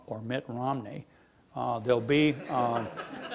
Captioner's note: laughing